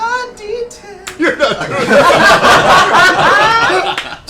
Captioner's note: laughter